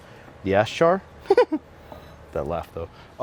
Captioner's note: giggles